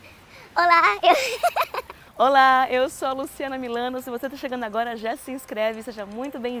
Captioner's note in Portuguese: risos